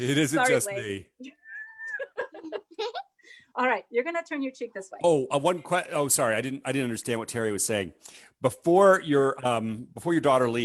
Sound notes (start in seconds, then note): 0.0 laughs